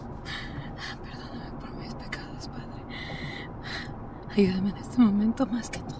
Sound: Janet speaking Spanish

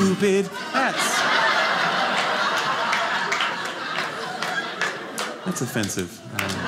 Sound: audience laughing

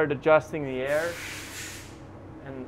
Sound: compressed air releasing

